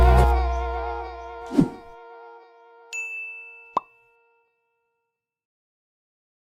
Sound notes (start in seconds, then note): 1.4 logo whooshes; 2.9 bell dings